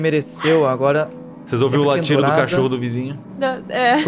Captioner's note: barking; laughs